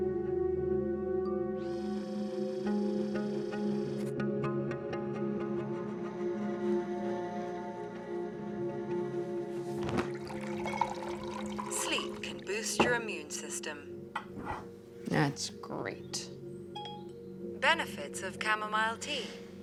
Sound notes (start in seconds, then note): 10.0 water trickling